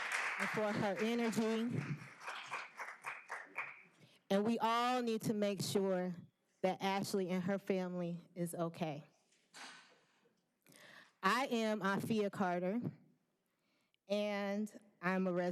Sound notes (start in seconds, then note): 3.7 applause